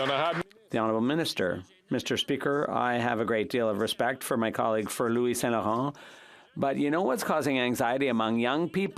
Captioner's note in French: applaudissements